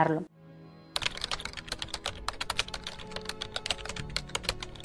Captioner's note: keyboard sound